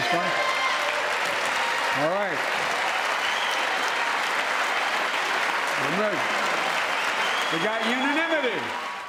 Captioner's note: cheering and applause